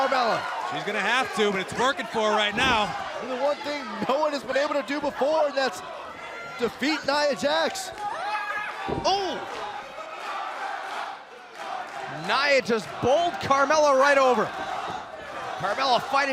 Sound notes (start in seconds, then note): 11.8 fans chanting